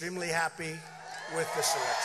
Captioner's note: cheering and applause